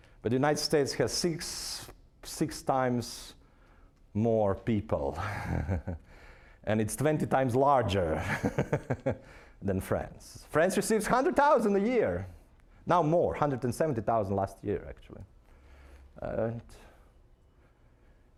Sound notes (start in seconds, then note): 5.2 chuckling; 8.7 laughing